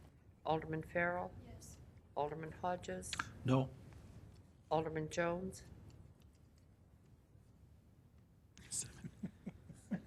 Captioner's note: laughing